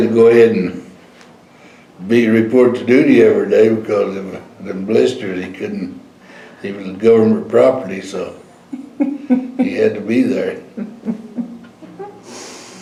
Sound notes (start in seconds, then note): 10.6 laughter